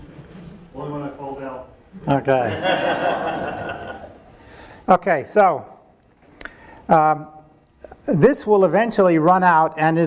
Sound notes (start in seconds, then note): 2.5 audience laughing